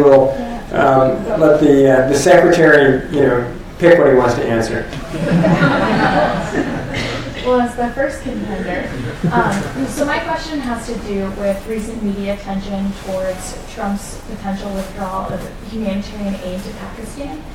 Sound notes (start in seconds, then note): 5.0 laughter